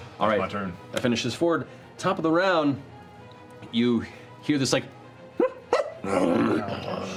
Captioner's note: hyena barking and growling